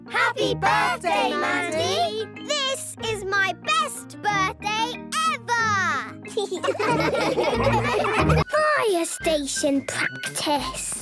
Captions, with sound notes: - Happy birthday, Mandy! - This is my best birthday ever! - (laughing)